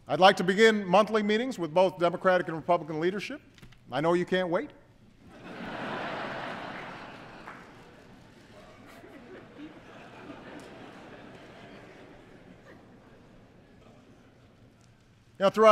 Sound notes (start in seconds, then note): 10.0 laughter